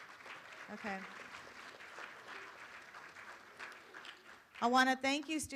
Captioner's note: room applauds